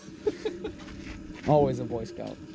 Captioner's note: laughing